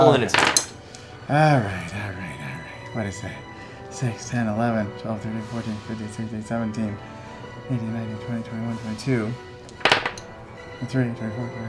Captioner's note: counts quietly